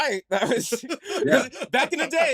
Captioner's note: laughter